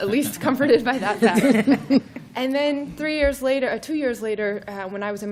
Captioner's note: laughter